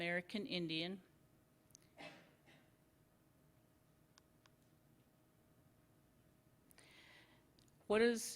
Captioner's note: silence